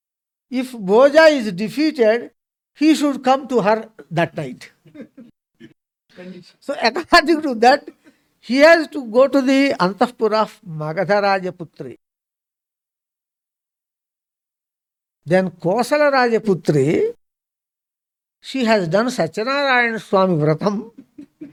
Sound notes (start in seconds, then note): 4.8 laughs; 20.9 laughs